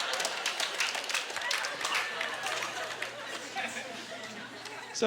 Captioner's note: scattered applause; audience laughter